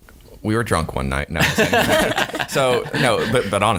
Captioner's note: laughing